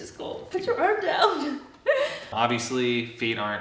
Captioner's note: laughs